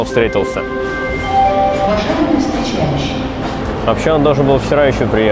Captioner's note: train station announcement